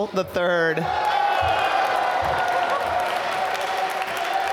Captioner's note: applause